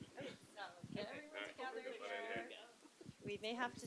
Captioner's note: laughter